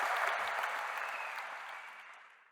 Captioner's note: applause